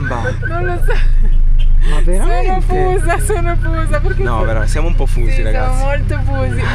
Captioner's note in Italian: risate